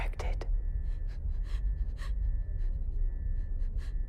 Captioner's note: sobbing